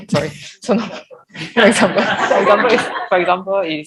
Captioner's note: indistinct laughter